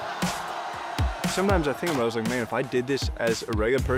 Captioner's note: crowd exclaims